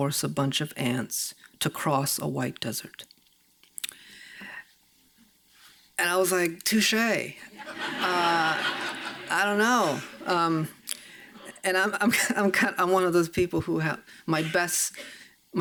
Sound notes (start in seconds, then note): 7.6 audience chuckles